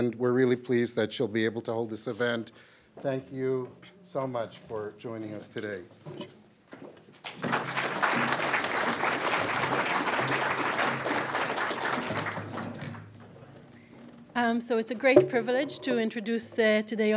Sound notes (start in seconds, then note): 7.2 clapping